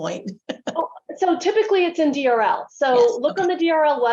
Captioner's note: laughs